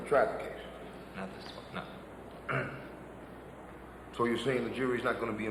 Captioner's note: clears throat